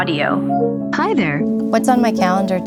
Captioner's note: recorded Voice